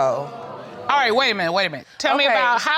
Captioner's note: crowd gasps